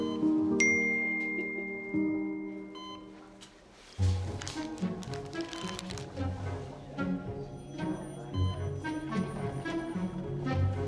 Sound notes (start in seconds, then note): 0.6 phone dings; 4.3 mysterious music